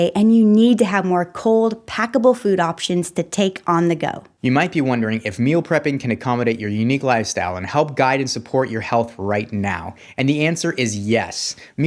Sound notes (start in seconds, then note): none